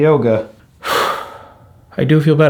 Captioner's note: exhales strongly